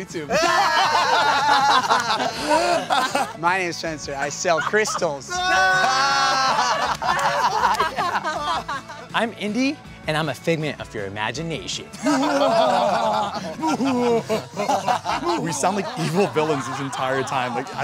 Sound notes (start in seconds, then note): 0.2 laughing; 12.0 evil laughing